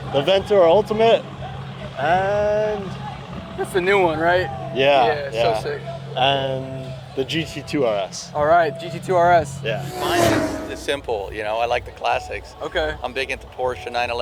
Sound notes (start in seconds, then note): 9.6 car revs